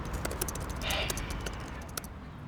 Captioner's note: sighs